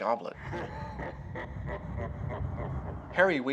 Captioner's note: evil laughs